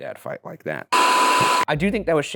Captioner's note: screen buzzing